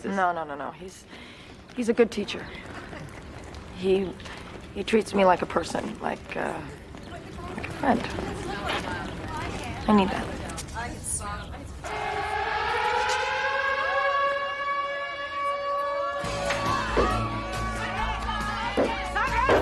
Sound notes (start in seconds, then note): 11.8 siren wailing; 16.2 dramatic music